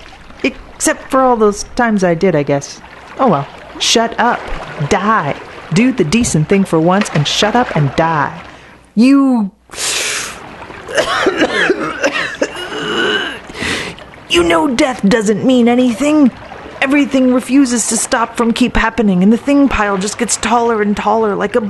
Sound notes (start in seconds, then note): 10.8 gasping, wheezing, coughing, and choking